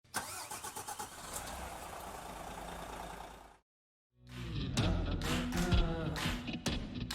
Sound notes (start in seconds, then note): 0.2 engine roaring; 4.2 upbeat music